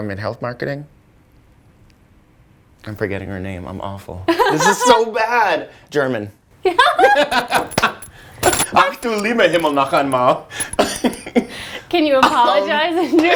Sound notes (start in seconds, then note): 4.5 laughs; 6.8 laughs; 8.5 speaking german